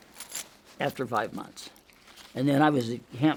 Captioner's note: object rattling